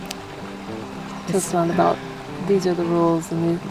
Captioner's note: voiceover